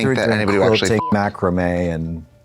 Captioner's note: beep